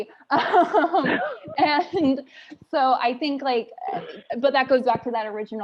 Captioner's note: laughs